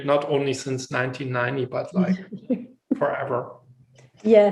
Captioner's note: laughs